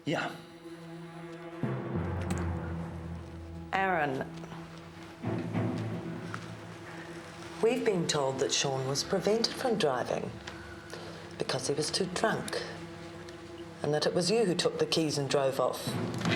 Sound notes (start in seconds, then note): none